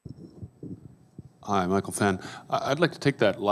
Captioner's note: voiceover